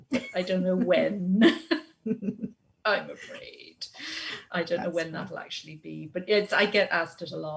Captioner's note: both laugh